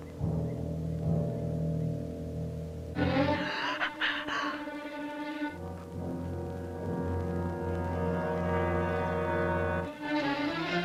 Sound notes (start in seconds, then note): 3.5 quiet gasping